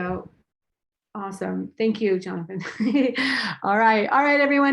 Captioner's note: laughs